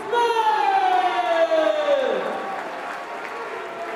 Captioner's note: crowd cheering; crowd chatter